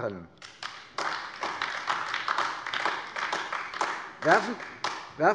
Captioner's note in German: Beifall AfD